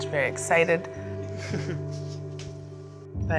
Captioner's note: laughs